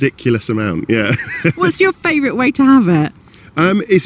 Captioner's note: laughs